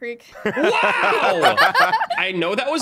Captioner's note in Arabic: يضحكون